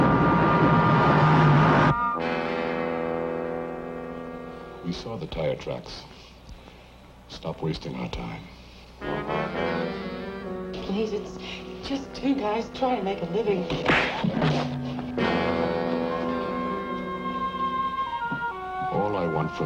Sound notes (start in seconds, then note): 9.0 suspenseful music; 13.7 Eileen thuds; 15.7 suspenseful music